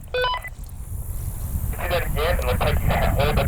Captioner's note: radio beeps